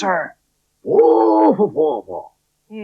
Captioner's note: Spencer Talks In Spider Language